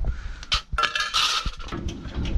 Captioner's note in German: klappern